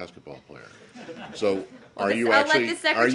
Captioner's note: laughter